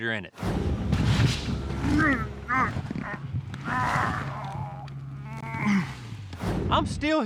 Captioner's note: grunting